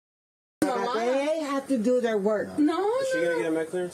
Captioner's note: speaking in foreign language